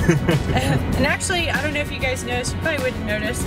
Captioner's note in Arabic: يضحك